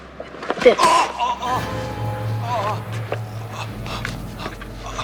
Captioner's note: groaning